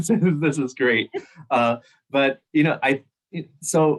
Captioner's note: laughter